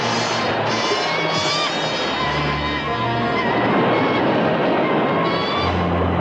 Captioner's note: bird squawking continues